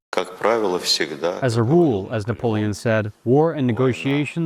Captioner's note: through translator